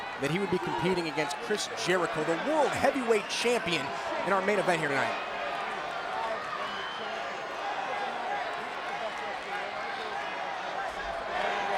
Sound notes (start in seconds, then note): 6.4 audience cheering